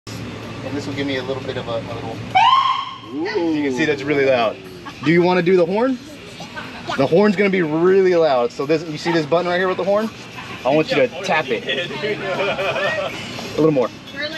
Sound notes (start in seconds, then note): 2.3 siren beeps